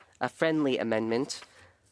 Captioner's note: speaking French